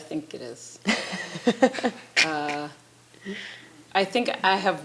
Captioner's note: chuckling